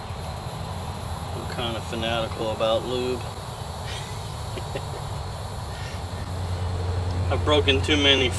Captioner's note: chuckle